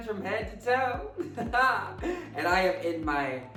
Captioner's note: Symone laughs